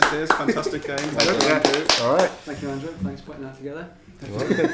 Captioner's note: clapping